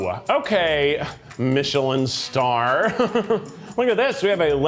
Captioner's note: chuckles